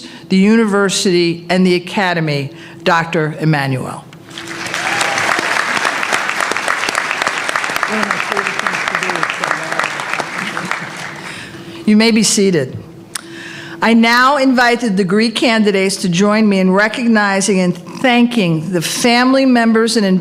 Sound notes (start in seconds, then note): 4.2 applause